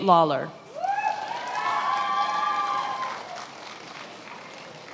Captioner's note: attendees applauding